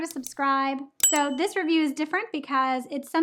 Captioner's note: bell dinging